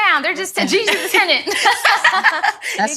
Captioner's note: ladies laughing